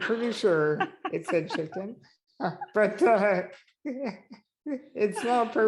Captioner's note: he is laughing